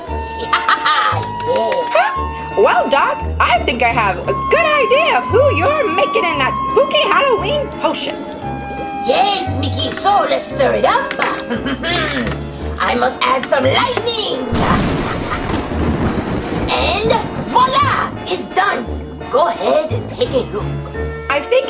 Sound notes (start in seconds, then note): 14.2 lightning strikes